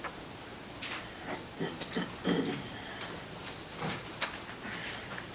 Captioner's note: board member clearing throat